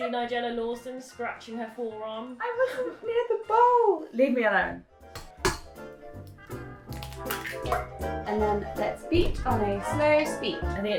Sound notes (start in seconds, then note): 5.1 eggs cracking